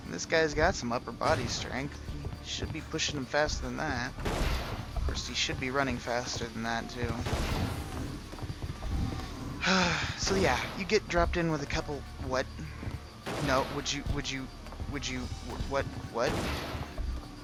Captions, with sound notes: I mean this guy has some upper body strength. Should be pushing them faster than that. Of course he SHOULD be running faster than that too. [Sigh] So yeah, you get dropped in with a couple - What? No! Would you....would you....would you. What? What? What?